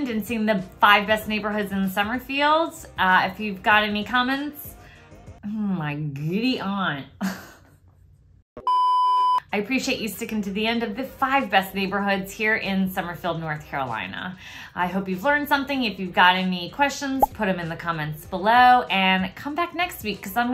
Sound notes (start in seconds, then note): 7.2 chuckles